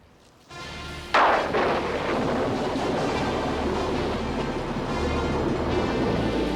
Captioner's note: dramatic music; thunder crashing